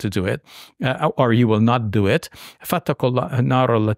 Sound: speaking in Arabic

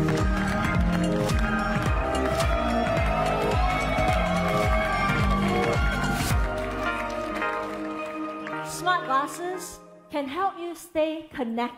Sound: cheering

